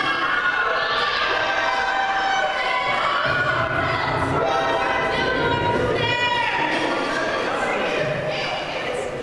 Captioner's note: surprise sound effect